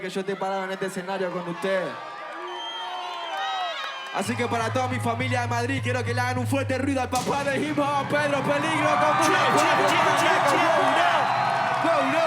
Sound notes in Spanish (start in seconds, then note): 8.4 Gritos